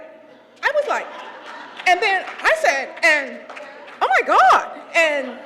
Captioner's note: laugh